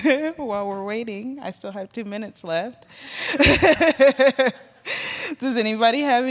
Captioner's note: laughs